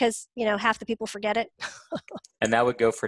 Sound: laughs

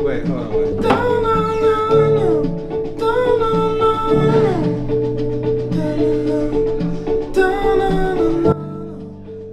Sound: humming

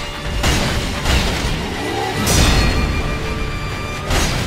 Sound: heavy sword clashes

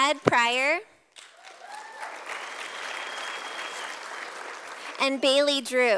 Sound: sound of applause from audience

